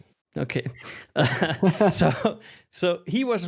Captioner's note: laughing